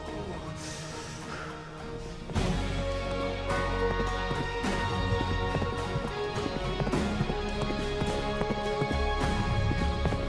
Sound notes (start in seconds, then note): 1.8 hooves clomping; 2.5 exciting music